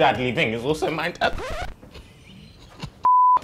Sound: laughs

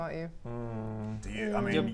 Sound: concerned hmm

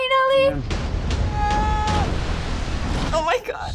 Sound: splash

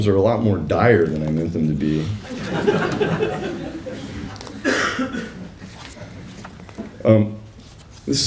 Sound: laughter

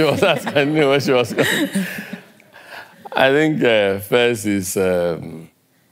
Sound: laugh

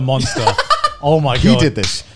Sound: laughing

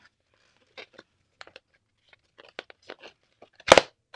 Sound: paper rustles

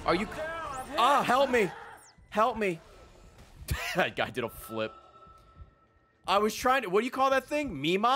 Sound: laughs

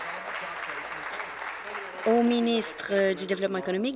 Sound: applause

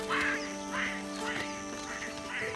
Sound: monkeys screeching

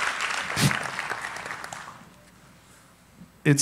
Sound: applauding

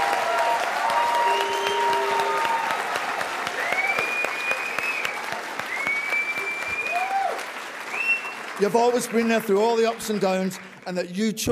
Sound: applause

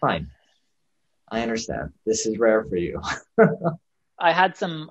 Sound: laughs

